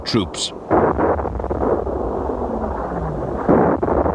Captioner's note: artillery explode